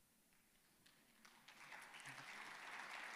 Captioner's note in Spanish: aplausos